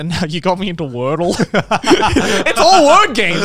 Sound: laughing

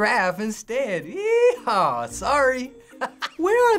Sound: laughing

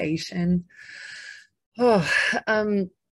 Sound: sighs

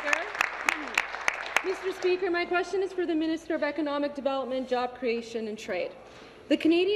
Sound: applause

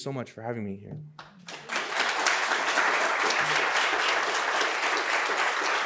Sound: audience applauds

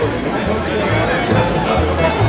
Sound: vroom

